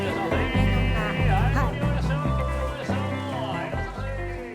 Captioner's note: people talking in background